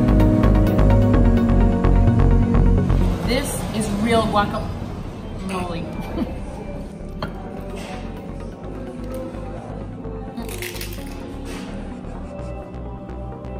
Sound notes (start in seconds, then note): 5.9 laughs; 10.4 crunching sound